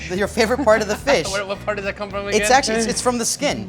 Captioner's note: laughing